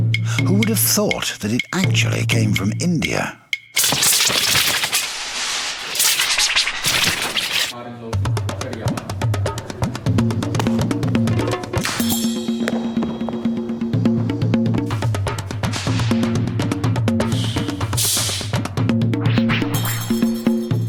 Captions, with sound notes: Who would've thought that it actually came from India. (weapon whooshing) (rhythmic music)